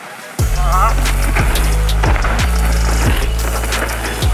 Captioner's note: gravel crunching